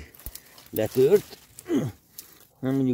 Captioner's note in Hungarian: nyögés